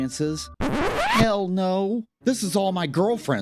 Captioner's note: record scratch